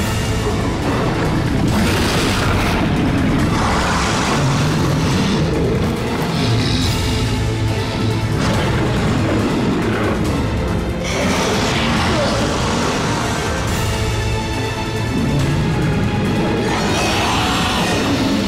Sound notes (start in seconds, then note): 0.8 screeching; 7.3 growling; 16.3 screeching